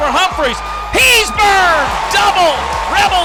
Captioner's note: yells